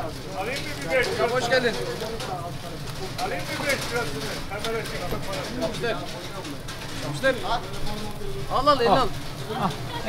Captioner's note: Turkish